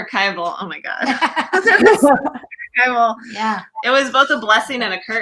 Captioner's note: laughs